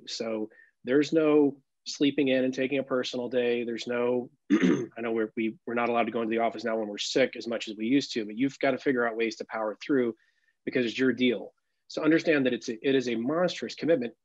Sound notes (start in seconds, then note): 4.5 clears throat